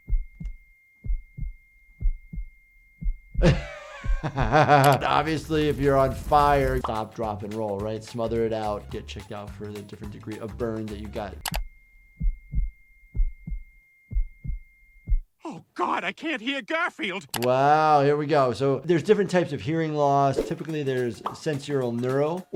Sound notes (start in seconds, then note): 0.2 high pitch static beeping; 3.4 doctor laughing; 11.6 high pitch static beeping